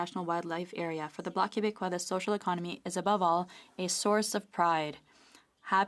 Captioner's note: speaking french; speaking french